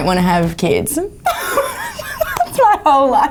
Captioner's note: laughs